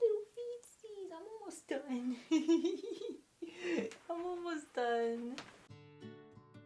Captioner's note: giggles